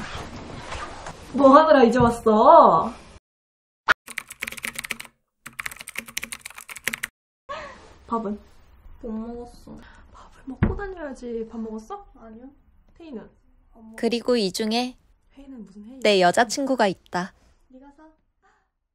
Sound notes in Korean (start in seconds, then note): 4.0 타자 소리